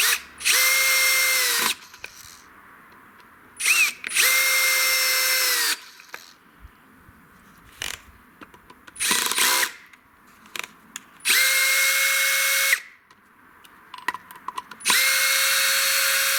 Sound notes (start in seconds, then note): 4.1 drilling